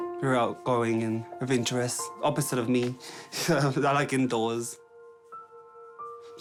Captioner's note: laughs